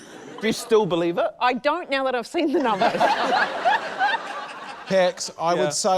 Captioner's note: laughter